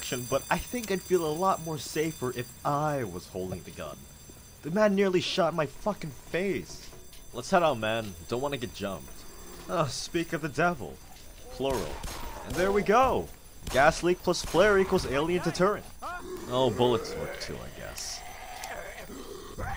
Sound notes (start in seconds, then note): 11.6 gunfire; 14.5 zombie screeching